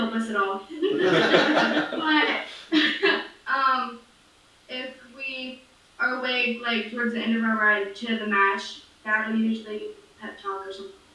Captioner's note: laughs